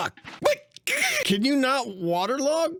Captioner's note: frustrated noises